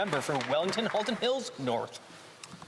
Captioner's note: some Applause